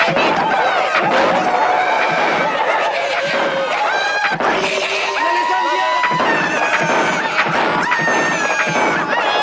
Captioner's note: Aplausos